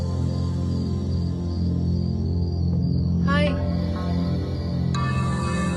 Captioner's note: crickets